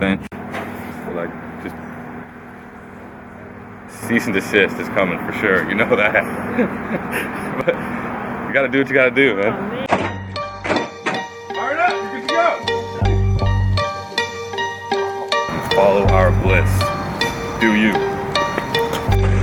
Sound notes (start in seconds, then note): 9.9 hood thud